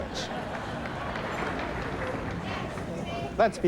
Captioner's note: onlookers applauding